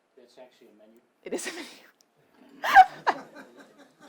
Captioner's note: laughs; audience laughing